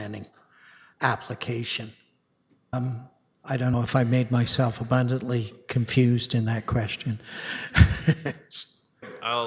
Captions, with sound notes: planning application? I don't know if I made myself abundantly confused in that question [chuckles]